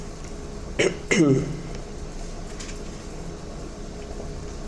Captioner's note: clears throat